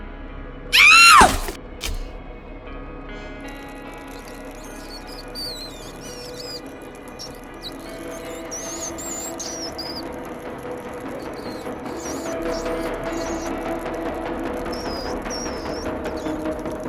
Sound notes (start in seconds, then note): 5.3 screaming; 10.1 mice squeaking